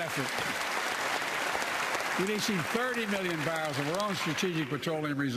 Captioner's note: applause